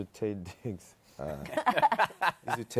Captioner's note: laughter